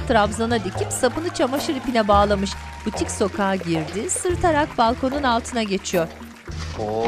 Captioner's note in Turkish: Fonda alkış ve çığlık sesleri